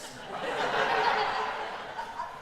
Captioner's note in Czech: Smích